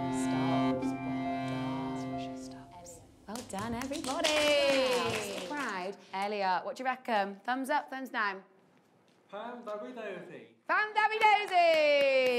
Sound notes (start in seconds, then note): 3.3 all applauding